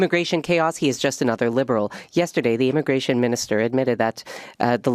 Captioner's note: speaking French